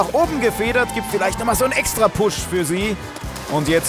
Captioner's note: Jubel